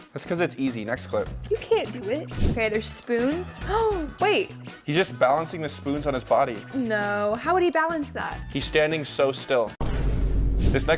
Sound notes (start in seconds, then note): 3.8 gasps